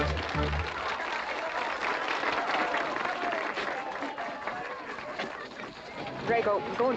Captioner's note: audience applauding